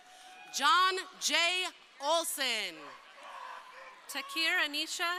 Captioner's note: crowd cheering